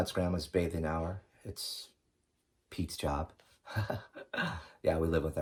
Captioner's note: chuckling